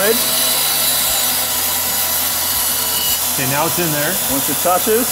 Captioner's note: saw whirring